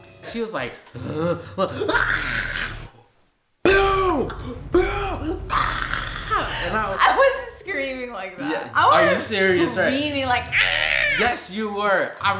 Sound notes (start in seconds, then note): 0.0 laughing; 0.9 groans; 1.9 yelling; 5.1 yelling; 10.6 screams